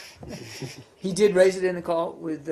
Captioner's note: laughter